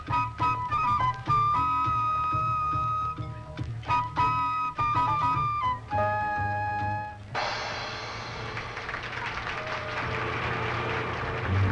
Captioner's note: applause